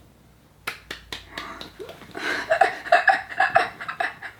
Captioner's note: clapping; laughing